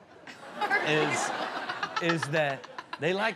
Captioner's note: laughing; all laugh